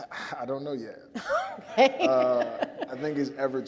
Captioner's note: laughs